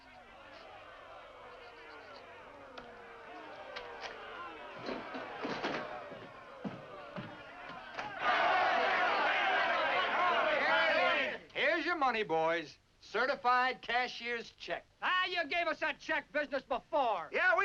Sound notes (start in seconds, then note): 8.0 men shouting